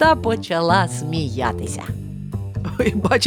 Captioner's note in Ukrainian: сміх